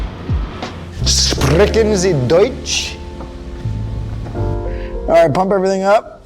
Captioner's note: speaking in foreign language